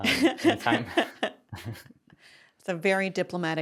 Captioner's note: laughs